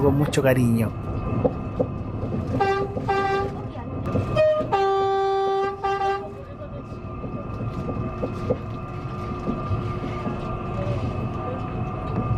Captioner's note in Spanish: claxón del tren, y parte del viaje en tren SFE400, en sonido ambiente